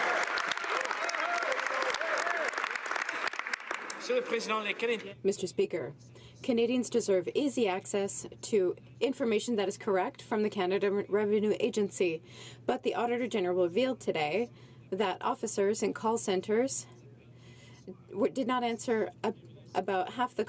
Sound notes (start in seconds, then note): 2.3 some Applause